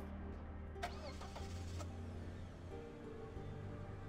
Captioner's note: car engine starts